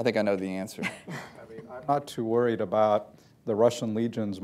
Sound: laughter

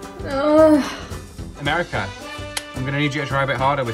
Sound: groans

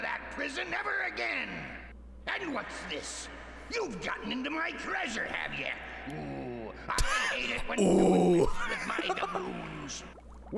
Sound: laughs

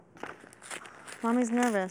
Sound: paper ripping

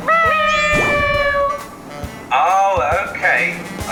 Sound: meowing

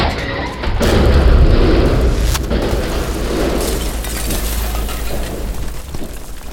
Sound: loud collision, breaking glass

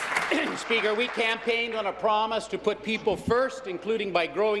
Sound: applause

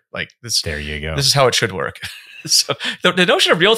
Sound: chuckles

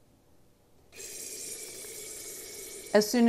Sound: coffee hissing

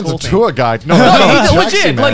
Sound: laughing

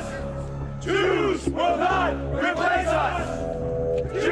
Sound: chanting

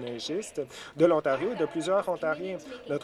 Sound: none

